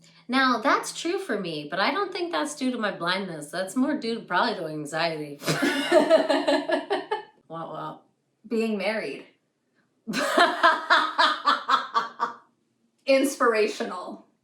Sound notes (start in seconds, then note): 5.4 laughter; 10.1 laughs